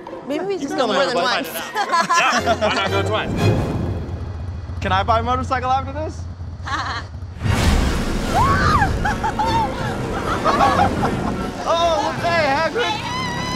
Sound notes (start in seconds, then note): 6.6 laughs; 7.3 dramatic music; 8.2 screams; 12.7 screams; 13.3 dramatic music